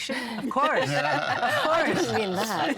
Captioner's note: all laughing